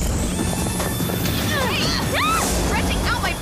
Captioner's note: helicopter flying; screaming